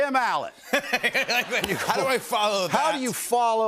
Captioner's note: laughter